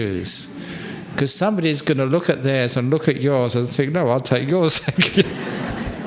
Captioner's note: laughter